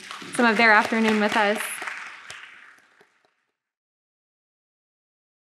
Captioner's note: audience claps